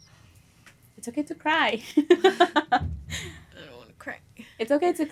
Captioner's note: chuckles